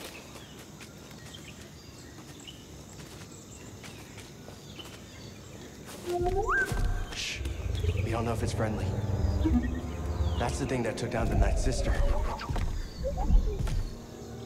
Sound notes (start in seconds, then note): 5.9 creature warbles; 9.4 cautious boop